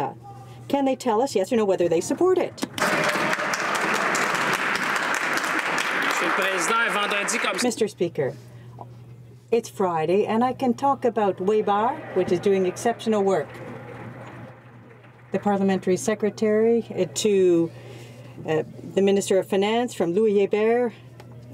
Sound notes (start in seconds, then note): 6.3 some Applause